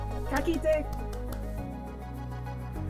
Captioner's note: lightly claps